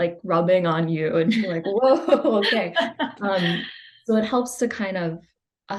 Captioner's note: laughs